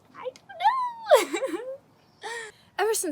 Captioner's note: chuckles